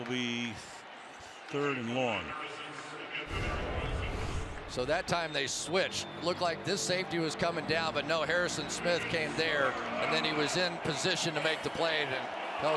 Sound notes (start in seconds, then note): 3.3 swoosh